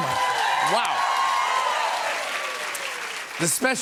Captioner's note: cheers and applause